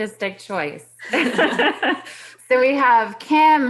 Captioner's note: laughing